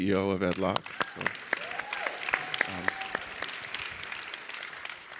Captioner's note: audience clapping